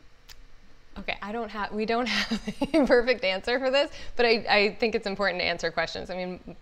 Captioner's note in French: rires